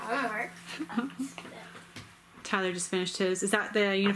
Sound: laughs

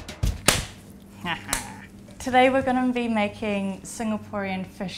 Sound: chuckles

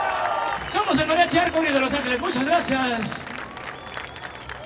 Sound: speaking spanish

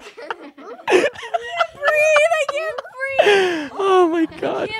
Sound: both laughing; laughing

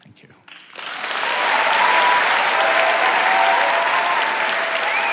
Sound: audience cheering

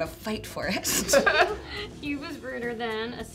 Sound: laughing

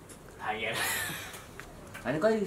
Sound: in Nepali

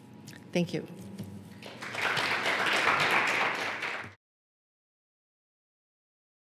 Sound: applause

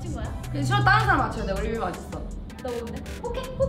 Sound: speaks in Korean

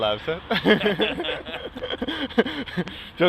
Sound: laughs

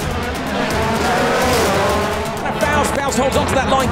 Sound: cars revving

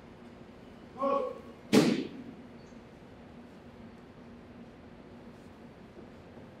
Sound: cadet yells command; flagpole thuds

